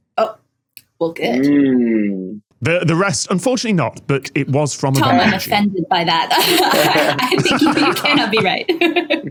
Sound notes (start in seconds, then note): 6.2 laughs